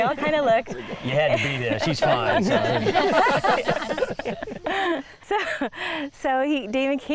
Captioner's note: all laughing